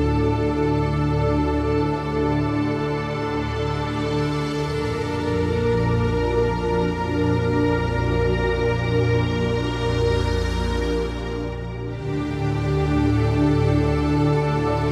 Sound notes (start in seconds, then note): none